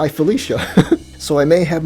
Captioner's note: laughs